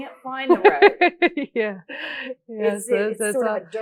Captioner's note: laughs